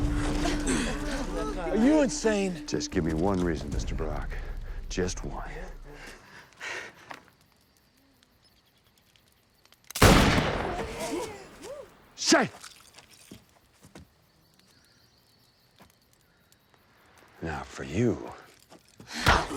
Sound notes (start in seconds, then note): 16.1 speaks tribal language